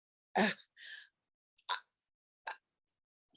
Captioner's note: pause